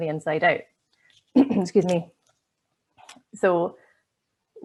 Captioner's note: coughs